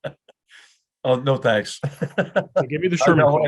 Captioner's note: laugh